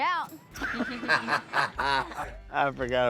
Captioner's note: laughing